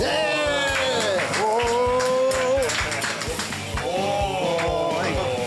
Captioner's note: cheering